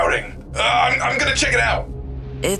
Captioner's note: stammering